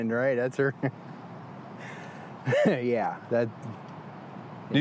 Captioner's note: laughs bitterly